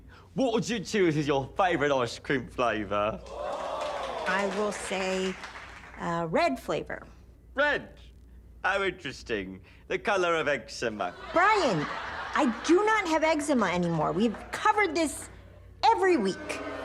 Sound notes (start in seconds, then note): 2.4 audience gasps; 9.6 audience laughs; 16.3 audience boos